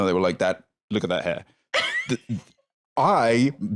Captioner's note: laughs